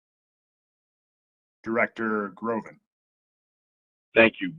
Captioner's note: A pause